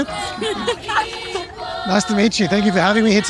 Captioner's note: both laughing